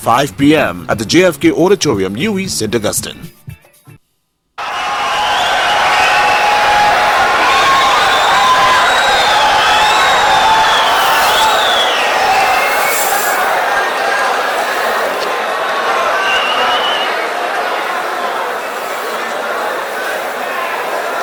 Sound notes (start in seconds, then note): 7.9 wild applause and cheering for 22 seconds